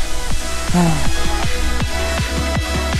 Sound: sighs

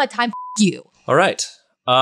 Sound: beep

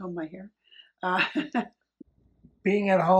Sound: laughs

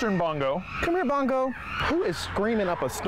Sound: loud screeching

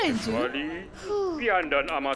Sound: exhales in relief

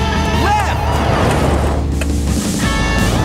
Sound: clicking

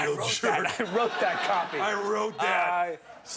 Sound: laughter

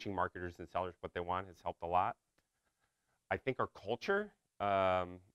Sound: none

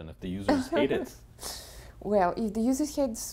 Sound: laugh

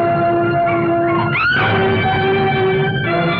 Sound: screams

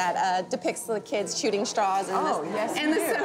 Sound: laughing

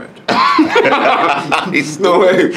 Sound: both laughing

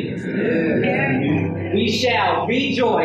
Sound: crowd murmuring

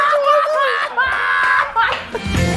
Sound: laughing and mocking

